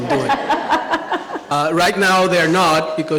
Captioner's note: laughing